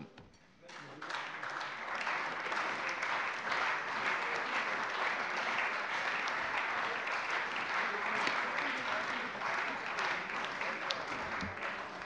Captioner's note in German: Beifall bei der CDU und dem BÜNDNIS 90/DIE GRÜNEN